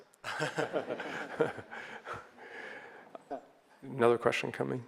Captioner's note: audience laughs